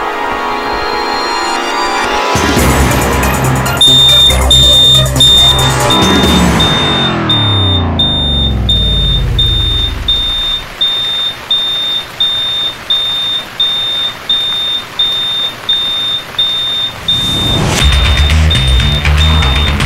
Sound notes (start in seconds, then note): 3.7 Fire alarm blaring